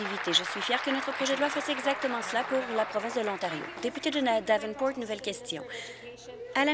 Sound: applause

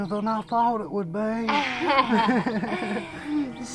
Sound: laughs

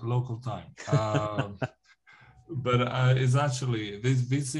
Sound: laughter

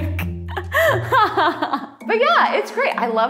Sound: laughs

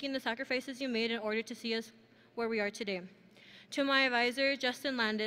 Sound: none

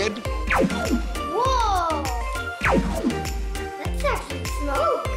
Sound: laser sounds

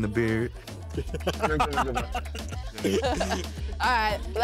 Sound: laughing

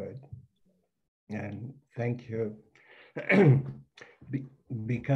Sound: clears throat

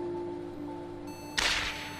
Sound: Windows Error; gun shot

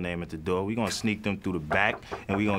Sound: knocking softly

